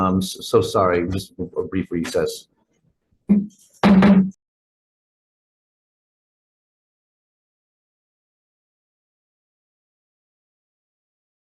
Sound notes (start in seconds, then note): 3.6 gavel bangs